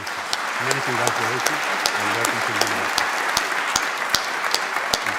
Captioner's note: applause